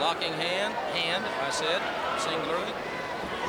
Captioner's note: crowd chatter